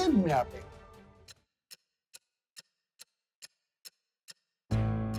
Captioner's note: clock ticking; tense dramatic music